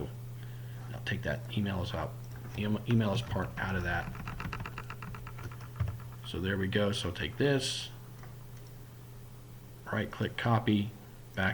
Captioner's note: typing